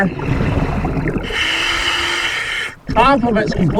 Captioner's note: regulator hissing